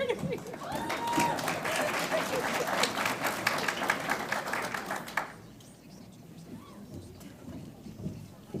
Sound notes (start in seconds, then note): 0.3 audience applauds